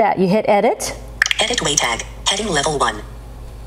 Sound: computerized Voice

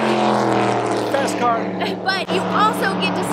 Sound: car passing

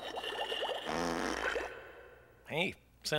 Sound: gurgling and bubbling; farts

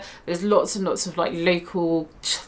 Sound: speaks in foreign language

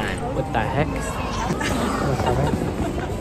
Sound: laughing

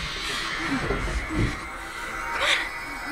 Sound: clattering

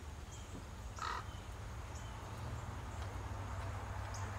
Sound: crow squawking

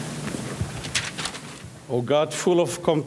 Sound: papers flipping

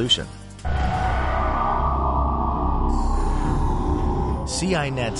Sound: sound effects

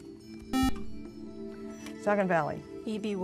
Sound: buzzer

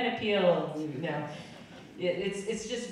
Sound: audience laughing

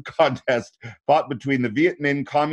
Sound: chuckling

